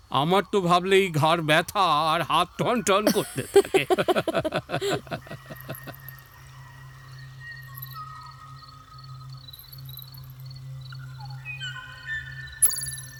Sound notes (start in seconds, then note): 6.4 bird singing